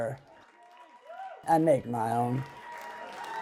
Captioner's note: crowd cheers